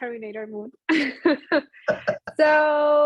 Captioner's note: laughter